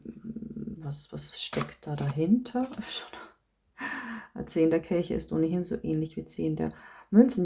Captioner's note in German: japst